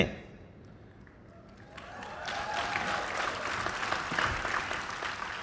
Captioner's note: applause